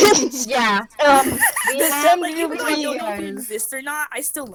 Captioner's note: saying 'I love you' in Russian